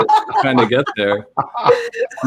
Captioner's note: laughter